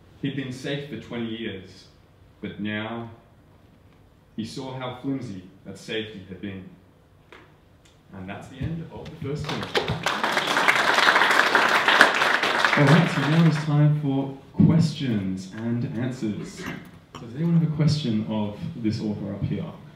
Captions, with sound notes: He'd been safe for 20 years, but now, he saw how flimsy that safety had been. And that's the end of the first scene. (audience applauding) All right, now it's time for questions and answers. Are there any questions of this author up here?